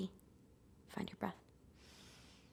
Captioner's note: inhaling and exhaling